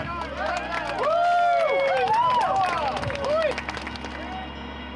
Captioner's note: crowd cheering